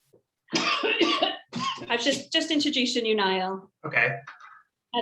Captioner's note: coughing